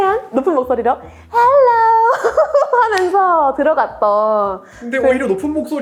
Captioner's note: laughs